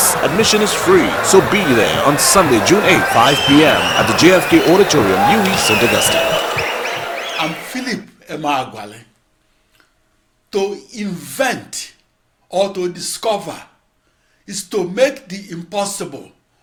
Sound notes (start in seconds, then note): 4.9 wild applause and cheering for 22 seconds